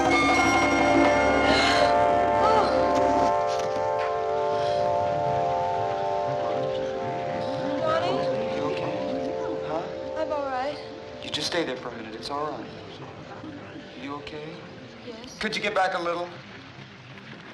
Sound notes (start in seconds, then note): 1.4 gasping; 5.9 crowd chattering